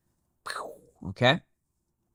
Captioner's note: lips swishing